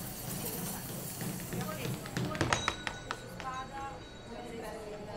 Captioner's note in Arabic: ثرثرة في الخلفية